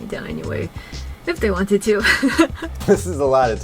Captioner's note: chuckles